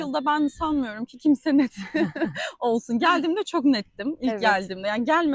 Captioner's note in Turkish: kahkaha